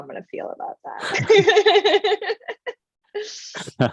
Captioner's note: laughs